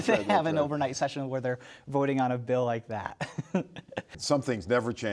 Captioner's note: laughs